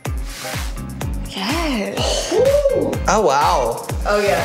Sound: cheers

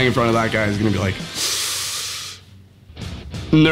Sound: hissing

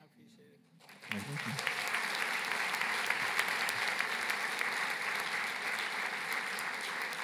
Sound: applause

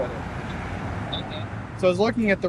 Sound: male voice responds from cellphone

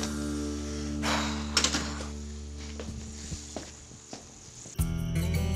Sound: sighs

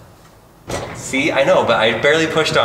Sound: drawer sliding

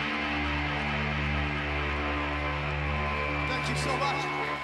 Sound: cheers, whistles, & applause

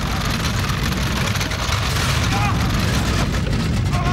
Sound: <i> rattling, objects falling</i>

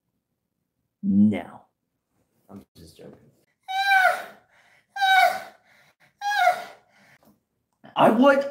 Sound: insert moaning noises

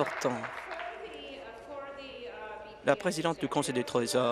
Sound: applause

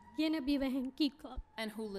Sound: speaking spanish

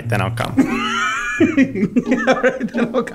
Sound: laughing

